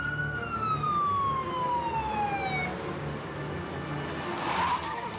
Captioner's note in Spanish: rechinido de llantas